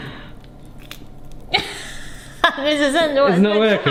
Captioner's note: avocado scrunches; laughs